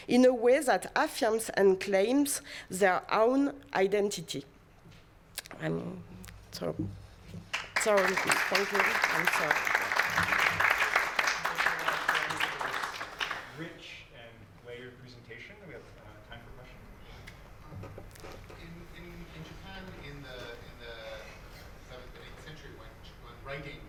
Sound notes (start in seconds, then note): 7.5 applause